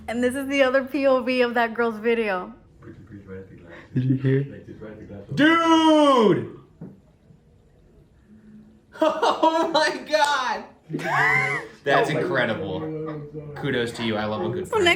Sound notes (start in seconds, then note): 10.9 laughing; 11.0 person laughing